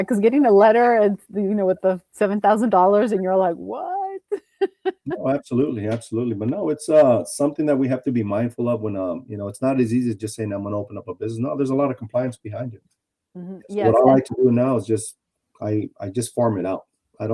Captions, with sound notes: -Getting a letter with the $7,000 and you're like, "What?" [laughs] -Absolutely. Now it's something that we have to be mindful of. It's not as easy as just saying, "I'm going to open up a business." No, there's a lot of compliance behind it. What I like to do now is I just form it out.